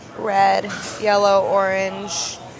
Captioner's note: none